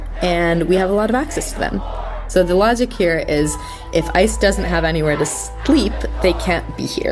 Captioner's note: chanting voices overlapping in background